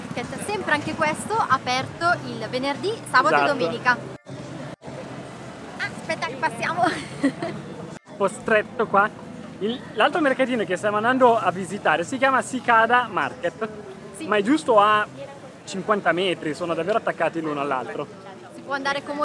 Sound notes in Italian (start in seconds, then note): 6.8 Risate